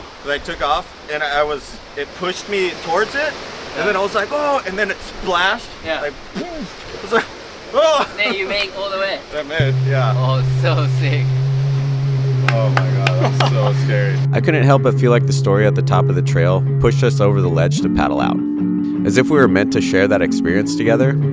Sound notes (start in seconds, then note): 12.4 claps